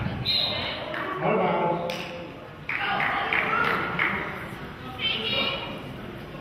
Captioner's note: whistle blows